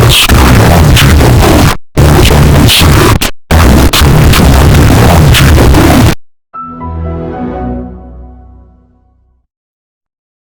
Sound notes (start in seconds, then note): 6.6 Orange Evil Windows XP Shutdown Sound